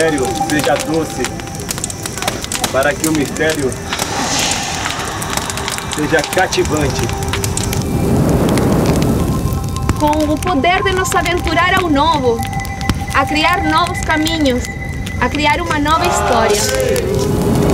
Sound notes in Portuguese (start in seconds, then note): 8.6 Crepitação